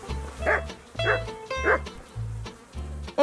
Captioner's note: dog barking